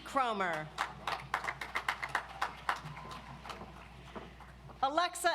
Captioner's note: audience applauds